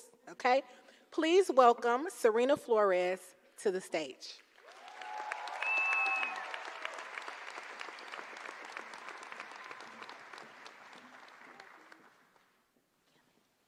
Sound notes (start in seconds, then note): 4.4 applause